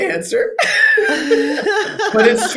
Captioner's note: both laughing